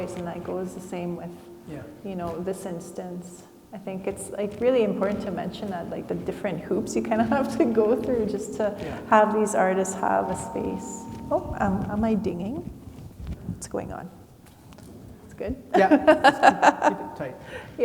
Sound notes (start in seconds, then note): 10.6 mic feedbacks; 15.7 laughs